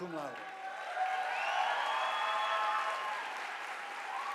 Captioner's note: audience applauding